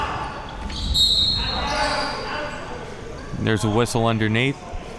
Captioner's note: whistle blowing